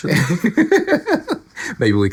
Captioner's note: laughing